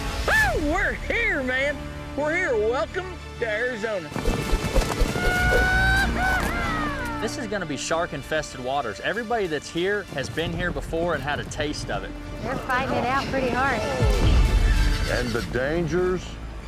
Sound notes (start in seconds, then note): 13.9 grunt; 13.9 horse neighs